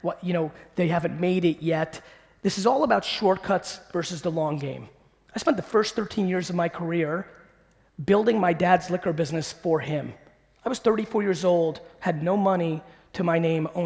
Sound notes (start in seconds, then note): none